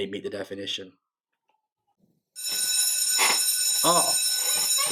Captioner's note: bell ringing